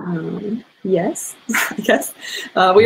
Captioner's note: laughs